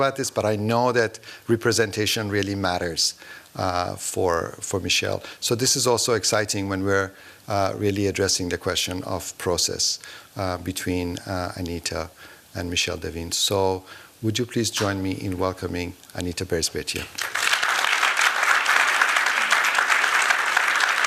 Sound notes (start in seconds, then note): 17.1 applause